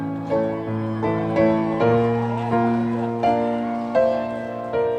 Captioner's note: audience applauding; audience cheering